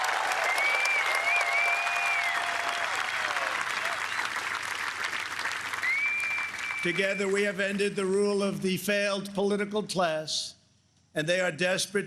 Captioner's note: applause